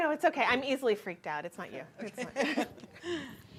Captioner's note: chuckles